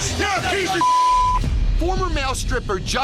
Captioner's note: beep